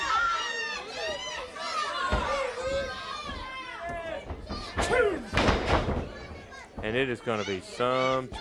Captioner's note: crowd chatter